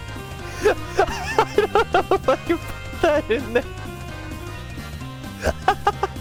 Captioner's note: laughing; more laughing